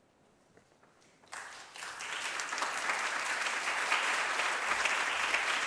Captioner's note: applause